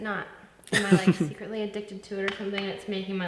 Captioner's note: laughs